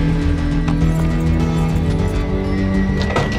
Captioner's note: keys rattling